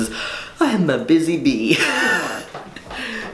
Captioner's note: laughs